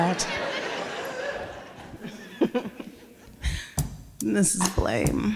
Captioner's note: laughter